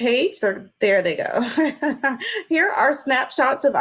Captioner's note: laughs